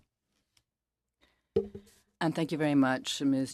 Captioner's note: speaking French